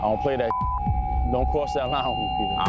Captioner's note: beep